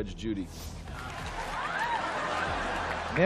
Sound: laughing

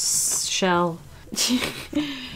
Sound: laughs

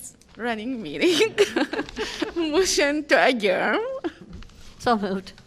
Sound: laughter

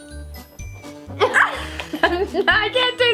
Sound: laughing

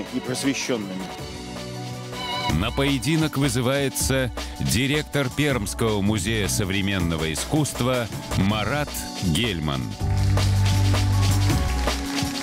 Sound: light applause

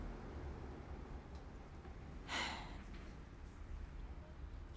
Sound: sighing

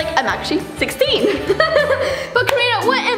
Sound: laughing

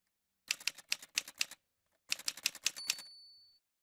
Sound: typewriter sounds

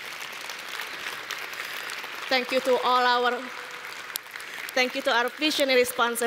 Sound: applause

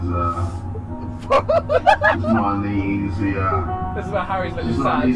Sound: laughs

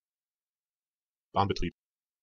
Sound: fast Pronunciation

